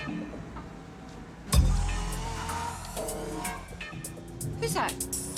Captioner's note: car noises; car noises, funky music